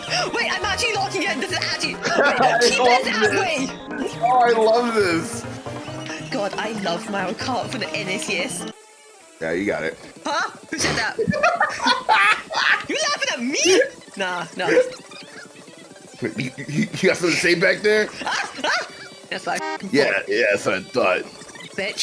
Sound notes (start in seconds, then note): 10.2 laughing